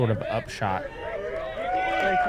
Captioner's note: applause